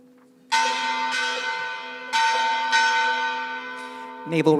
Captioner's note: bell clanging